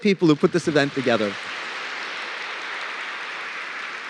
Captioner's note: applause